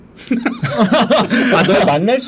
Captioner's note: laughing